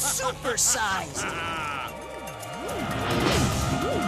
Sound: evil laugh

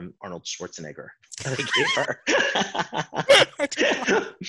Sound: laughing

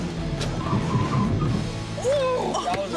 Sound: tires squealing

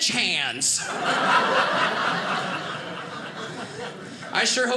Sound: audience laughing

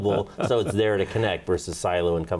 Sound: laughs

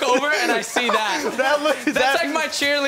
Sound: laughs

